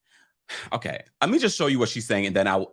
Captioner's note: sighs